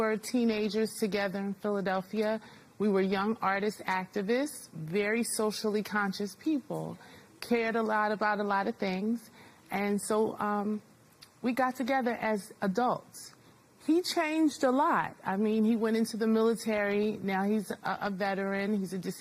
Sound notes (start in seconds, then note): none